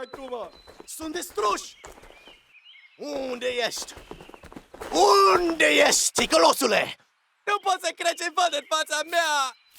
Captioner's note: non english